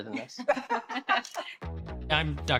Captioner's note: laughter; snaps photo